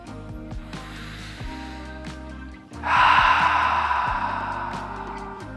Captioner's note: inhales and exhales sharply